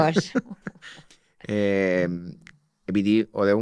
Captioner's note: he laughs